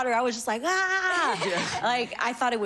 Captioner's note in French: laughing